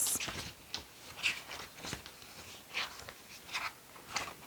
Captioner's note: papers turning